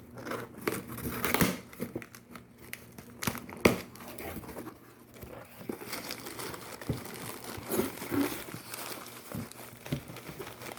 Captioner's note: opening the box, hearing crinkling of packing paper